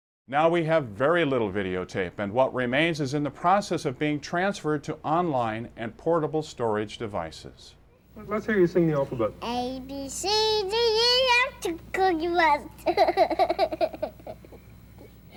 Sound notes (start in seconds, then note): 12.0 laughs